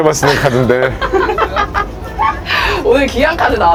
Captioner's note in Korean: 웃음